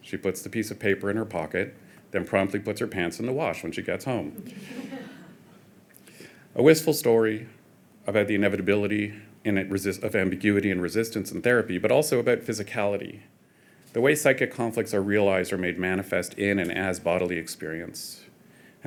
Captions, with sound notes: She puts the piece of paper in her pocket, then promptly puts her pants in the wash when she gets home. (audience chuckling) A wistful story about the inevitability of ambiguity and resistance in therapy, but also about physicality, the way psychic conflicts are realized or made manifest in and as bodily experience